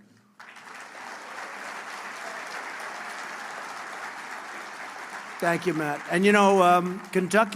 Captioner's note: applause